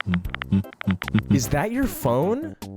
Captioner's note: phone typing